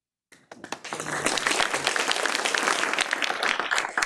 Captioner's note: clapping